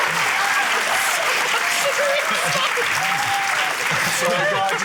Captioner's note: cheering, applause; laughs